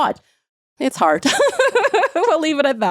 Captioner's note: laughing